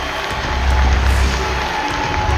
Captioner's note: applause